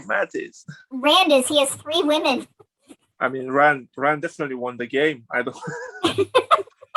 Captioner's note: laughs